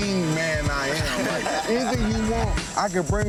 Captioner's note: people laughing